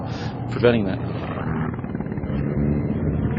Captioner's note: plane sounds